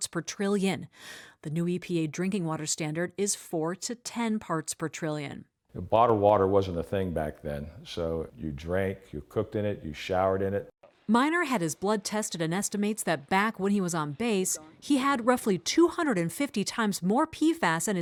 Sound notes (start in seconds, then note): 11.5 voice-over